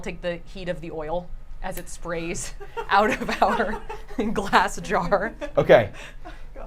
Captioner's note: laughs